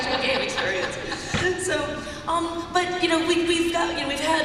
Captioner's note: laughter